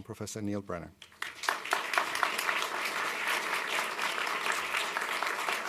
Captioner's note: applause